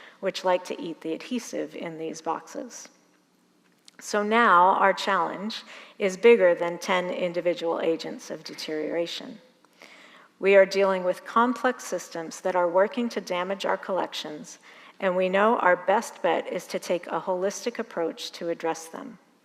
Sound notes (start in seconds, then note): none